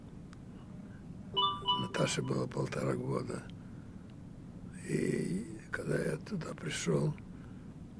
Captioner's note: phone ring